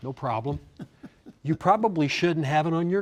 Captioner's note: laughing